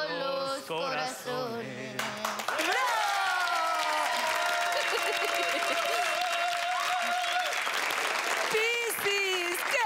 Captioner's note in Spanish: Aclamaciones; Aplausos